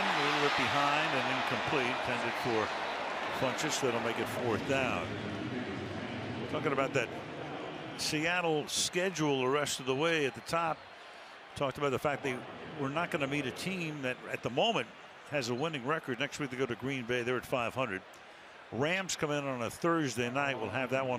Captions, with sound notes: And a little bit behind and incomplete, intended for Funchess. That'll make it fourth down. [pa announcement] Talking about that Seattle schedule the rest of the way at the top. Talked about the fact they were not going to meet a team that, at the moment, has a winning record. Next week, they go to Green Bay. They're at .500. Rams come in on a Thursday night.